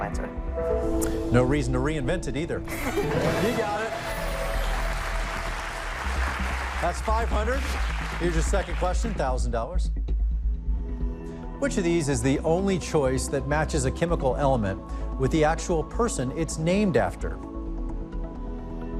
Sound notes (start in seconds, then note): 2.7 laughs; 4.5 cheers and applause